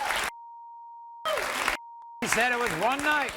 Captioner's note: beep